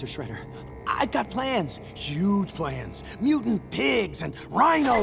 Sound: none

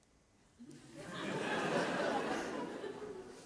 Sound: audience laughs

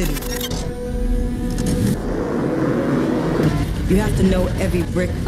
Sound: whirring

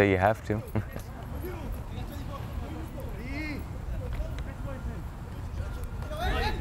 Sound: players talking and yelling

